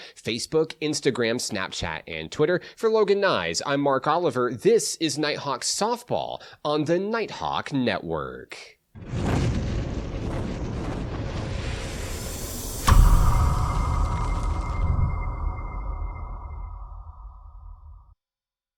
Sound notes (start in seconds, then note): 9.2 logo roaring